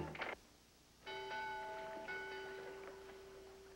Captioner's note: bell Ringing